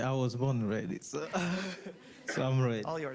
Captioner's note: laughing